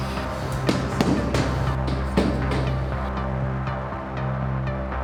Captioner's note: hand pounding on floor